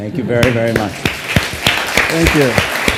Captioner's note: audience clapping